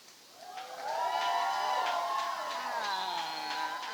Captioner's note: audience cheers and applauds